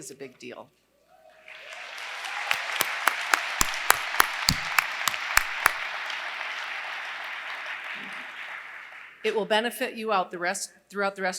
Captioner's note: applause